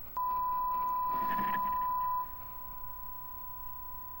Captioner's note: test tone beep